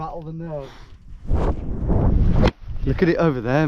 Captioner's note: wind howling